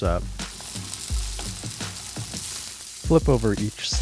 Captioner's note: Spam sizzling